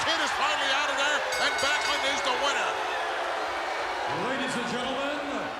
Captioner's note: bell ringing